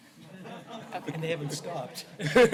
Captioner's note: laughter